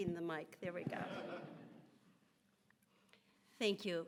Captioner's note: audience laughs